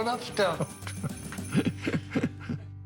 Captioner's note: chuckles